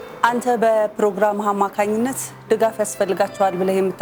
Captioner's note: none